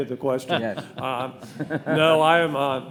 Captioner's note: laughing